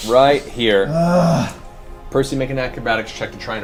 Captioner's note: groans